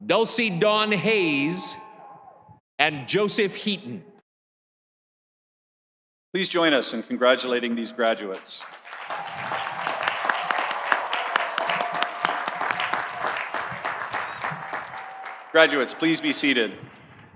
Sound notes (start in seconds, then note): 8.2 audience applauding; 8.8 audience cheering